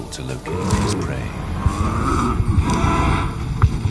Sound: growling

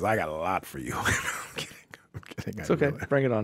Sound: chuckling

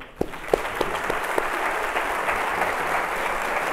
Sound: applause

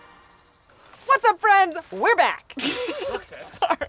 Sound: laughs

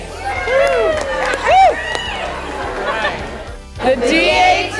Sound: group cheering

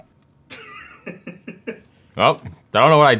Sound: laughing

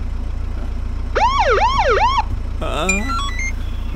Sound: police siren wails

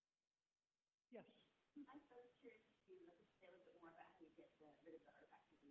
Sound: woman murmuring in distance

